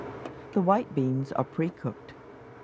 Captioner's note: voiceover